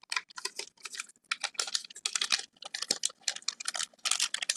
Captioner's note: paper crackling